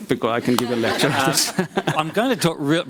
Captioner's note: crowd laughs